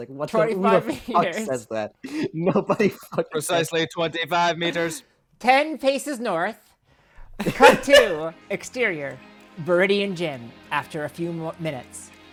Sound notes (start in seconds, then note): 3.4 in a robot voice; 7.3 laughs